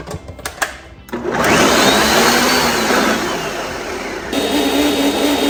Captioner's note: blender whirring